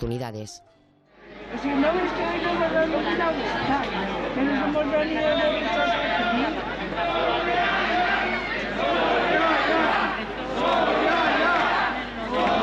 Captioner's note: crowd chants